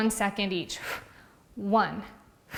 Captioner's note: exhales loudly